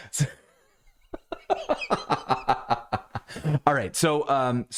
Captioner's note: laughing